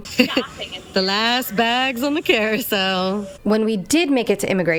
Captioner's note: hoots, giggling